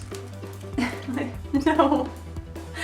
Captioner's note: laughs